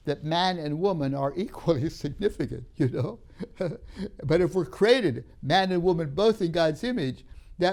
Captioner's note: laughs